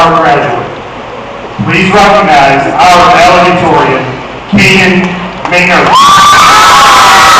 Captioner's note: clapping and cheering